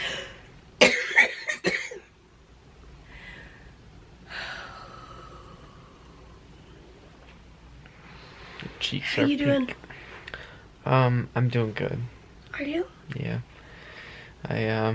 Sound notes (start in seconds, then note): 0.8 coughing; 4.2 tired sigh